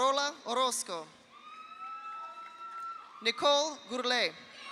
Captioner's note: audience applauds; audience cheers